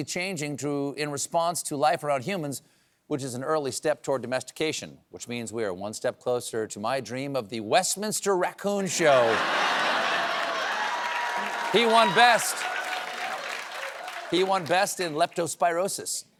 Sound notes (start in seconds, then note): 8.9 cheers and applause